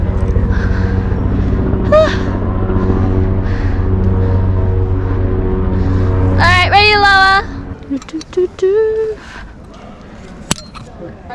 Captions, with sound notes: Alright, ready to lower! [humming to myself again]